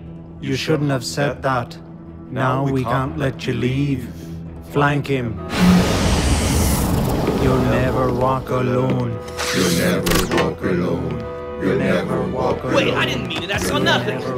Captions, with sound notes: -You shouldn’t have said that. -You shouldn’t have said that. -Now, we can’t let you leave. -Now, we can’t let you leave. -Flank him. -Flank him. (Chanting) -You’ll never walk alone. -You’ll never walk alone. (Group chanting) -You’ll never walk alone. -Wait, I didn’t mean it. I saw nothing! -(Chanting)